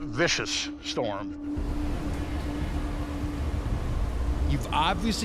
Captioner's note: wind howling